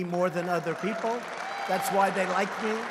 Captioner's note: applause